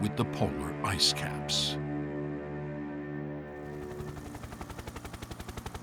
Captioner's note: helicopter blades beating